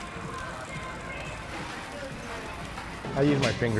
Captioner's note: restaurant chatter